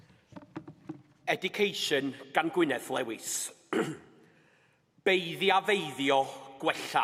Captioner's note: clears throat